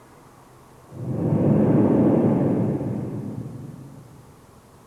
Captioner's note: shri mataji blows into the microphone